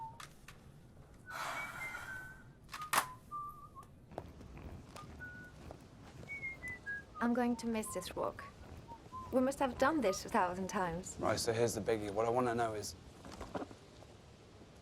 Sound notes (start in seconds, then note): 1.3 Eloise sighing; 4.2 whistling